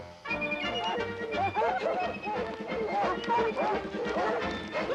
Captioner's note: barking